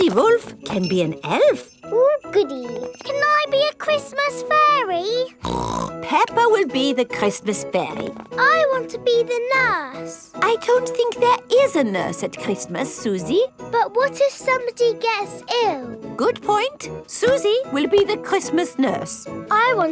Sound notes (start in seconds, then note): 5.4 snorts